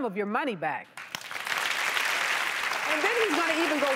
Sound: applause

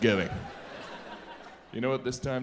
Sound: audience laughs

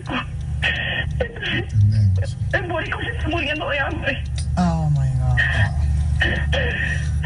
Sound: crying continues

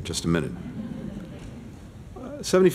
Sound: laughter

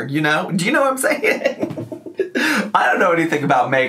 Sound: laughs

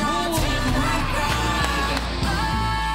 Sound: clapping

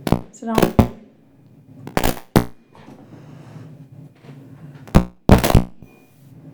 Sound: microphone pops

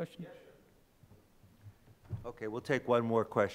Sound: faintly speaking

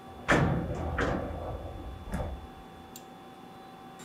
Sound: rattling

